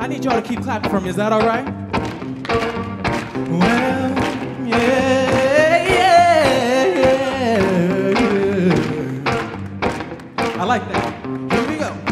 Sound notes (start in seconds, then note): 1.9 audience clapping